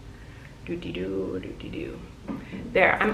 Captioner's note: humming